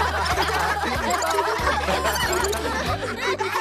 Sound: laughter; squirrel Chatters

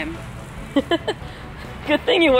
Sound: laughs

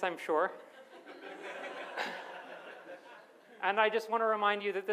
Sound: audience laughs

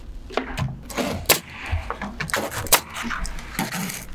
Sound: nail gun bangs

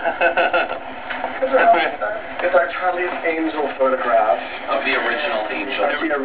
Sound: round of laughter

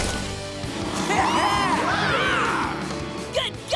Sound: cheering

